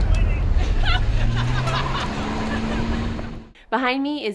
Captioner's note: woman laughing